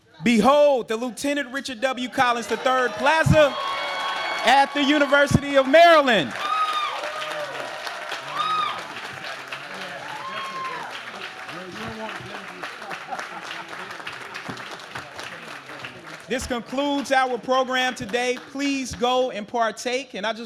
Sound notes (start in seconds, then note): 6.7 audience cheers; 12.5 man laughs